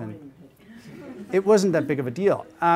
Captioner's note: audience laughing